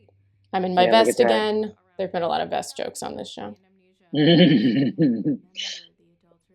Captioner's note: laughter